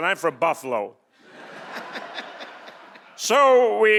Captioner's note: audience laughing